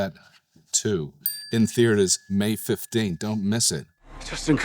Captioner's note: tone dings